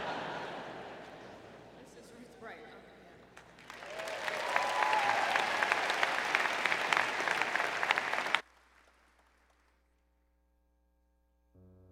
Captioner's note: laughter